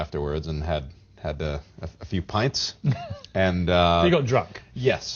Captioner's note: laughs